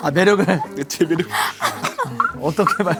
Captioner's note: choking up